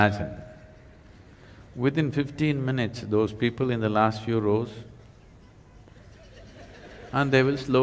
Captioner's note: laughter